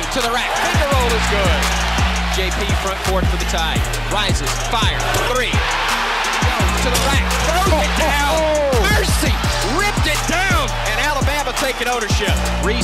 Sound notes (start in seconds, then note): 1.8 crowd cheering; 5.6 crowd cheers